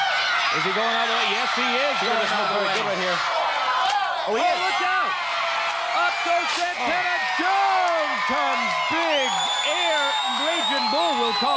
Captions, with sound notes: right between the shoulder blades of Tito Santana. (crowd chanting for Tito) (crowd cheering)